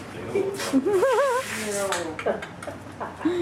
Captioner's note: laughs